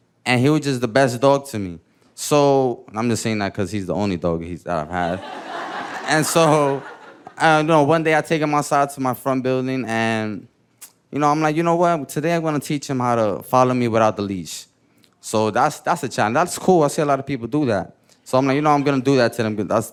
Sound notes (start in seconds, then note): 4.9 chuckling; 4.9 audience laughing